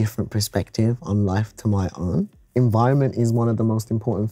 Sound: none

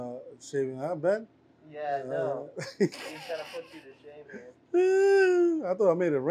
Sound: laughs

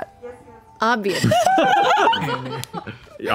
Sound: laughing

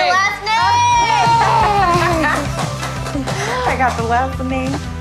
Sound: group laughs and cheers

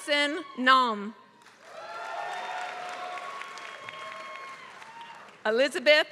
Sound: applause

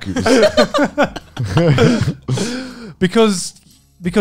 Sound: laughing

